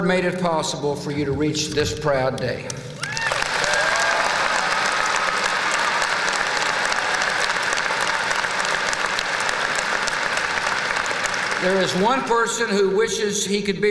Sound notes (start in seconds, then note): 3.0 applause